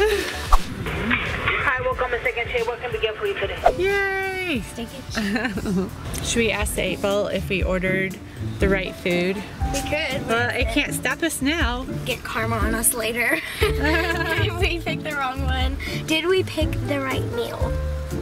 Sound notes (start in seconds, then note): 5.1 chuckles; 13.4 chuckling